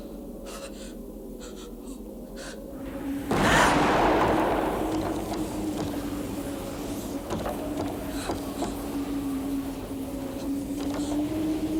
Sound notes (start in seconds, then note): 2.8 dramatic music; 3.3 door thudding